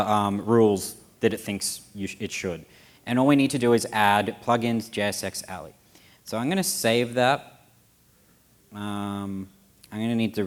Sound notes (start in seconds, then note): none